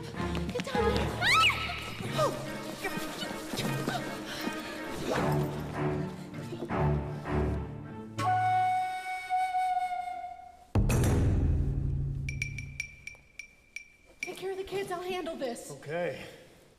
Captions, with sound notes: GET DOWN THERE. - [screams] [mystical music] ś ś - TAKE CARE OF THE KIDS. I'LL HANDLE THIS. - OKAY.